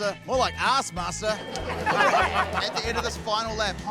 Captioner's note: laughter